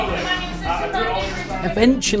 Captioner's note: everyone shouting